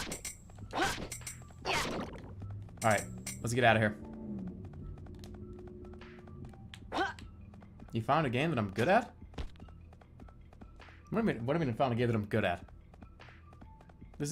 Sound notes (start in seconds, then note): 6.2 vroomer passes